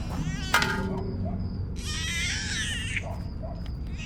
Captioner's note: metal clanking; baby crying